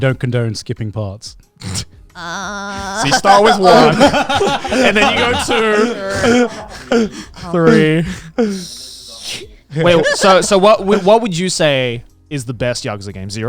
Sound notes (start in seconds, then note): 6.0 everyone laughing